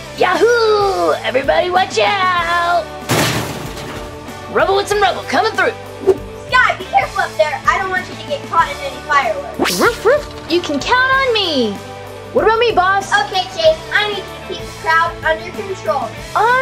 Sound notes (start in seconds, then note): 9.8 Skye barking